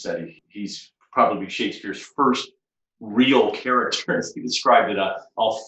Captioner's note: chuckles